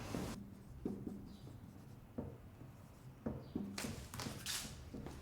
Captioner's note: footsteps thudding